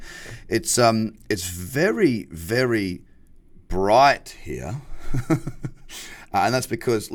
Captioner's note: laughing